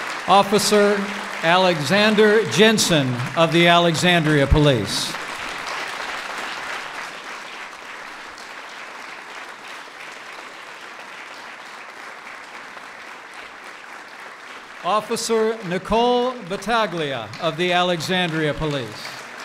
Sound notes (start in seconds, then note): 5.1 applause; 19.2 applause